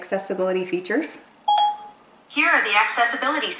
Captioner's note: ding